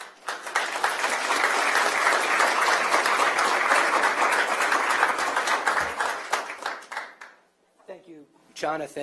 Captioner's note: applause